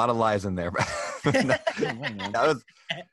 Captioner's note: laughs